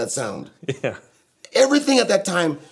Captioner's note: chuckles